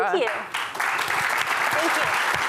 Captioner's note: applause